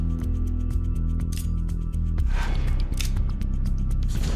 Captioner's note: knife clicking